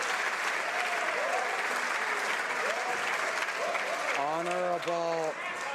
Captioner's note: some applause